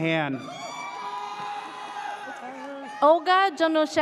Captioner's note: audience cheers